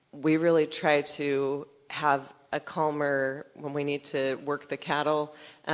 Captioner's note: none